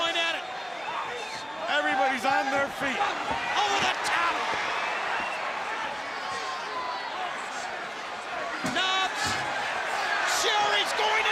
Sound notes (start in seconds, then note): 4.3 crowd chatter